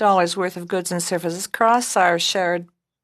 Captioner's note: speaking French